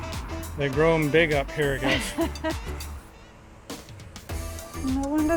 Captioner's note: laughing